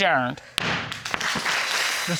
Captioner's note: audience applauds